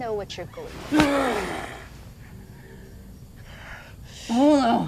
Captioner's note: Bolo groans